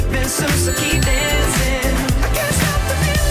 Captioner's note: none